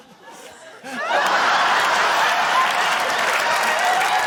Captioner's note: laughter, applause